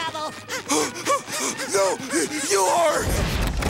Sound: panting

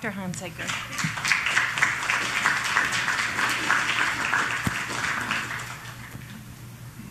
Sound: applause

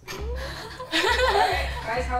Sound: group laughs

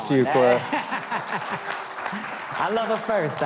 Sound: audience cheering

